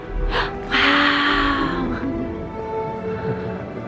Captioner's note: gasps